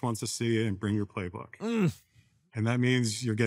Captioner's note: groans